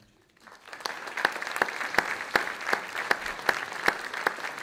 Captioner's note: audience clapping